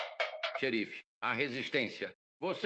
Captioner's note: shouting